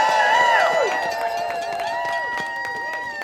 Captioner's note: audience cheering